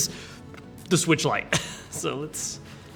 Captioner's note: laughing